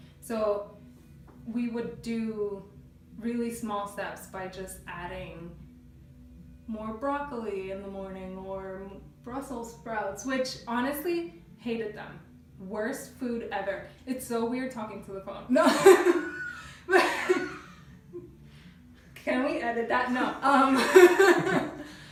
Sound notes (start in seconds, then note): 15.6 laughing